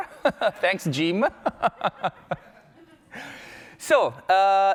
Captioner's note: laughs